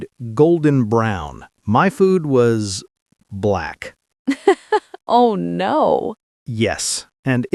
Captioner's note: laughs